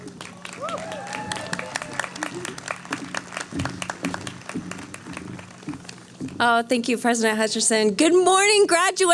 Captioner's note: cheering